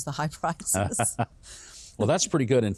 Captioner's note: both hosts laugh